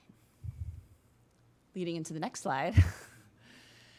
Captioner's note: chuckling